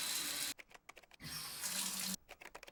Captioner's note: keyboard typing